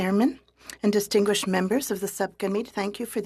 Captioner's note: speaking french